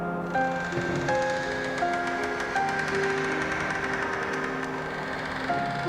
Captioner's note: house creaking